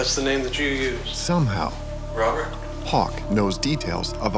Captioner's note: voiceover